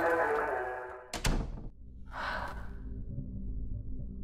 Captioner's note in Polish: wzdycha